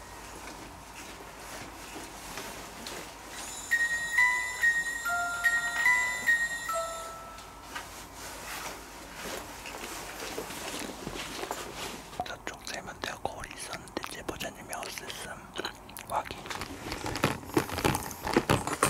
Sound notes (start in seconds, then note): 0.3 silent footsteps; 7.7 silent footsteps, super cute. ㅋㅋ; 12.1 is whispering